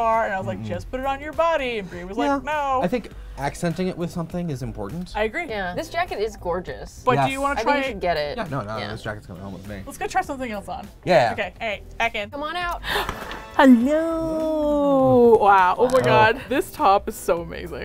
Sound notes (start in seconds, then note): 12.8 gasps